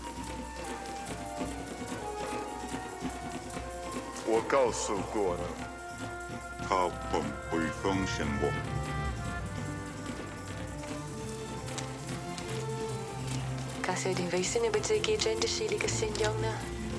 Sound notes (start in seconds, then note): 0.0 drums shuffling; 11.3 gravel crunching